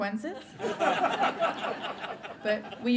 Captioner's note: laughter